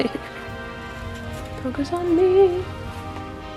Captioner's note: singsong